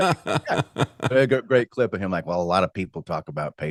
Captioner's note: laughing